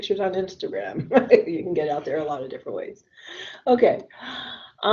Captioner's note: laughs